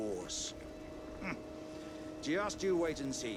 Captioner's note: grunt of excitement